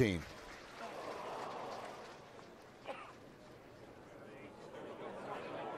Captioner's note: applause